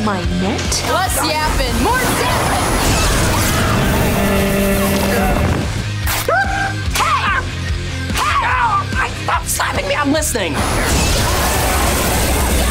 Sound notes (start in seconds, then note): 2.9 screaming; 5.6 yelping